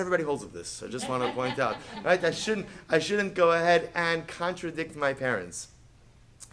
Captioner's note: Hebrew; laughter